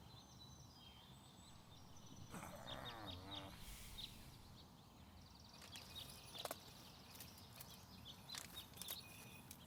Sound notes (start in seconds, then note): 2.2 groaning